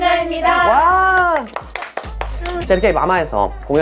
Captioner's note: clapping